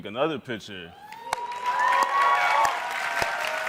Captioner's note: audience cheers